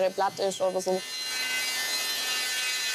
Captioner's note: sounds of sawing